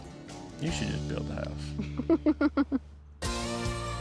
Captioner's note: giggles